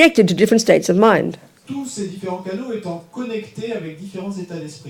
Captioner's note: audience member speaks in French